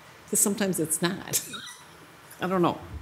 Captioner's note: laughing